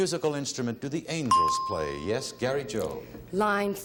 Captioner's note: ding